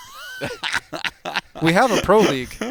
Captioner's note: laughter